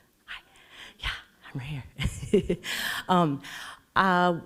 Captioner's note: laughs